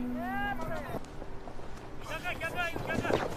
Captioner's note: voices chattering in the distance